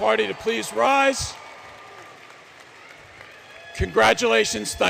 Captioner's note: applause